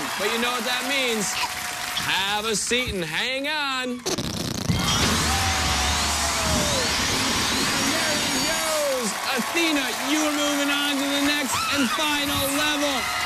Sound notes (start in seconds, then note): 4.0 farting noise; 4.9 cheers and applause